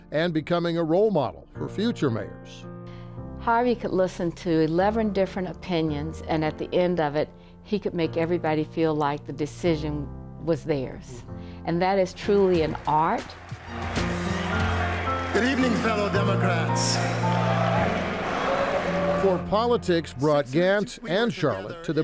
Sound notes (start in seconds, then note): 13.6 upbeat music; 17.5 crowd